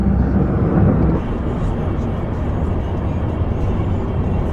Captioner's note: traffic buzzing